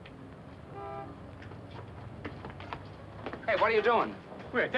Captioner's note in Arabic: صوت بوق السيارة